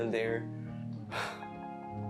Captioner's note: sigh